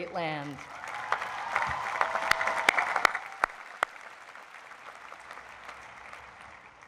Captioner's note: crowd applauds